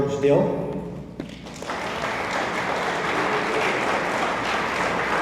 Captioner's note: attendees applauding